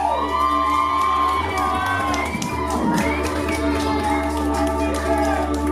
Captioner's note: applause